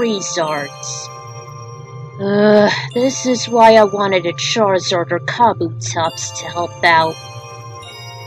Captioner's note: sigh